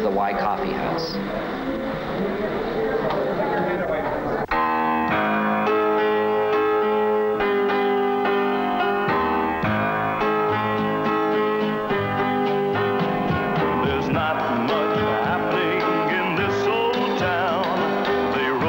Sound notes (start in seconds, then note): 3.4 murmuring; 5.5 piano music